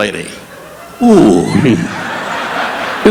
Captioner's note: audience laughing; Don groaning